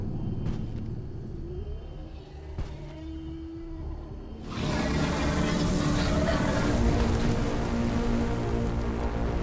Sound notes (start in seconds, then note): 4.4 dinosaur growling; 6.6 dramatic music